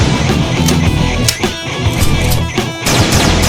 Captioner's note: gun clicks; gun blasting